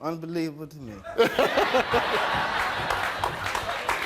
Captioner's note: laughing